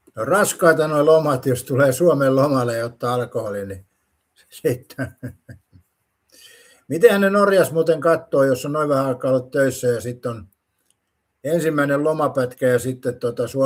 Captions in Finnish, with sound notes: on raskaita noi lomat. Jos tulee Suomen lomalle ja ottaa alkoholin, niin sitten. [naurua] Mitenhän ne Norjass muuten kattooo, jos on noin vähän aikaa ollut töissä ja sit on ensimmäinen lomapätkä ja sitten tota